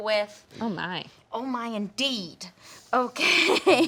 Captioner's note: laughs